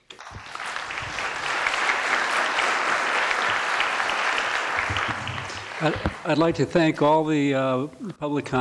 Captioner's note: applause